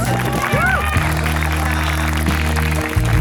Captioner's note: applause